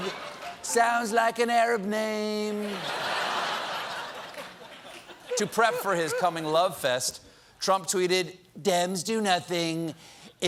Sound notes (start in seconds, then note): 6.4 laughter